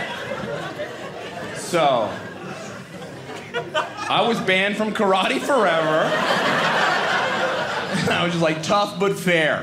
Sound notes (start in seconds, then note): 6.7 audience laughing